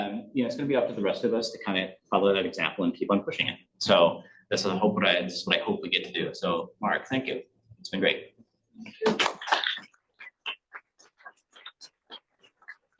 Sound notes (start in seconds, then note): 9.3 audience applauds